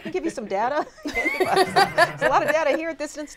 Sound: laughter

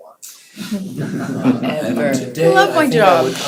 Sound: laughter

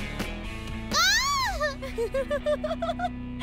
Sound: screams; laughs

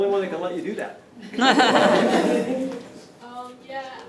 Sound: laughter

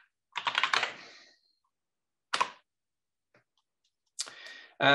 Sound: keyboard clattering

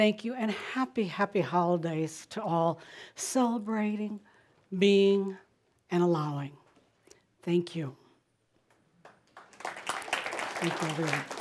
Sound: audience applause

